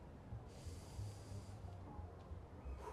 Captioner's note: breathes deeply